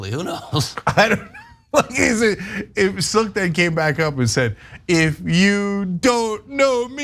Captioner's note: laugh